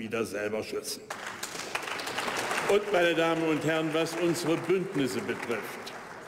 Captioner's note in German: Beifall bei der AfD